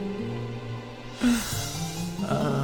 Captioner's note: sighs